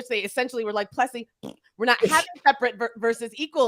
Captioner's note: blows raspberry